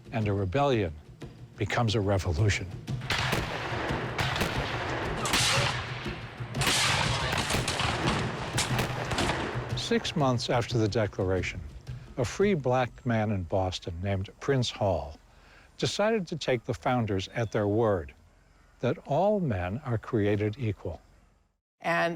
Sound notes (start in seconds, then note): 3.0 gunfire